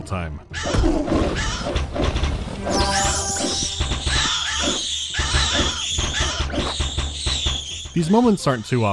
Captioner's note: chaotic earrape